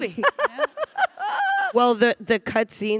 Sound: panelist laughing

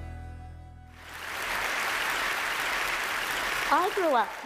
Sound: applause

